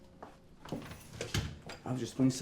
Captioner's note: door shuts